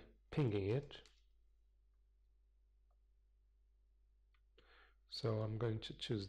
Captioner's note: pause